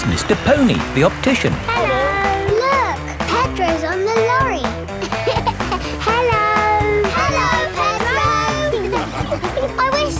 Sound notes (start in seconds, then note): 4.9 laughing